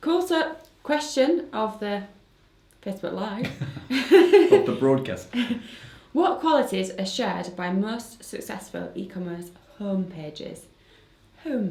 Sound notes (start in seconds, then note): 3.4 laughs